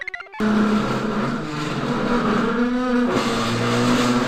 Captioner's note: computer chirps; chair squeals